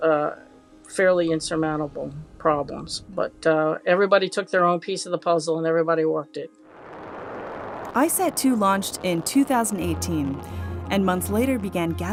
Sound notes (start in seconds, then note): 6.7 rocket launching